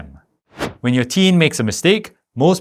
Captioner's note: air whooshing